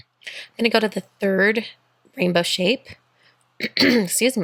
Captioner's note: clears throat